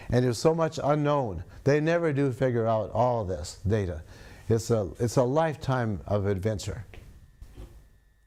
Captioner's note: sniffs